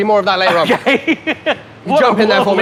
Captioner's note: laughs